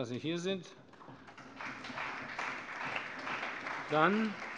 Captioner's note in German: Allgemeiner Beifall